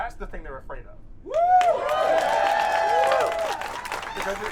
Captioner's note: audience cheering